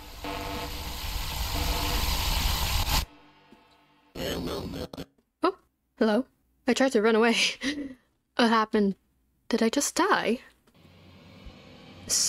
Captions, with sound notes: hello? I tried to run away *laughs* what happened? did I just die??